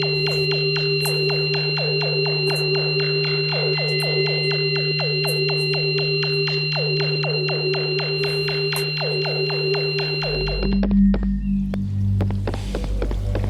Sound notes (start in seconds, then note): 2.5 sound operation of the device and the open portal